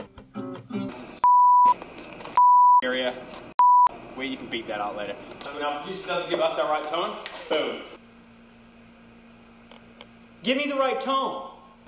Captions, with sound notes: (guitar riff then beep) (beep) - Area (beep) where you can beat that out later. Coming up, just doesn't give us our right tone. Boom! - Give me the right tone!